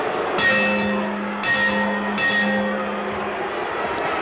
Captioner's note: bell ringing